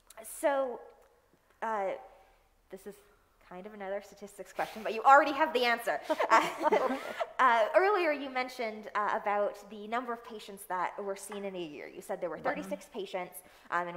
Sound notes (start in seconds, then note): 6.1 laughing